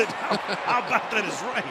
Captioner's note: laughter